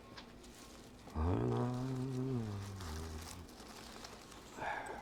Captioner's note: humming